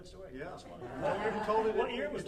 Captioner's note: audience laughing